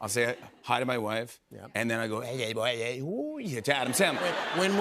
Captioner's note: Mumbling as Adam Sandler